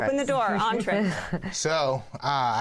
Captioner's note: laughter